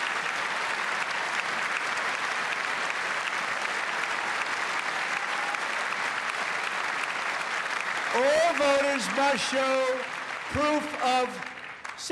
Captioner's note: cheers and applause